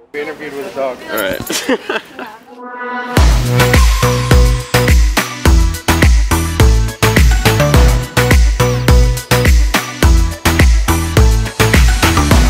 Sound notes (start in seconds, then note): 1.4 laughs; 2.8 upbeat music